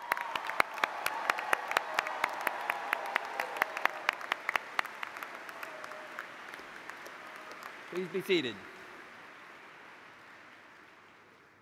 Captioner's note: applause